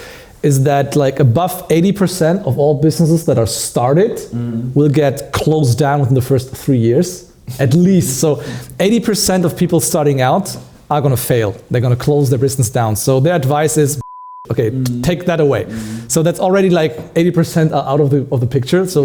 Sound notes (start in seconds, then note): 14.0 beeping